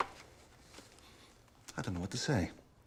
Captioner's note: sniffs